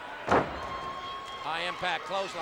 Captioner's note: audience cheers